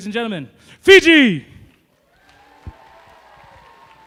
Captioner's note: applause